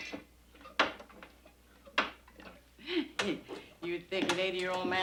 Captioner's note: pump thudding